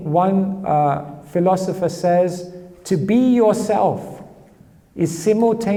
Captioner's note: none